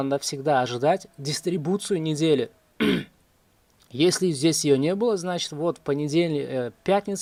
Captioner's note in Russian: откашливается